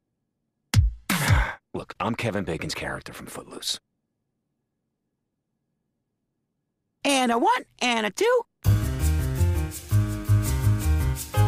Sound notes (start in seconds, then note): 1.1 sigh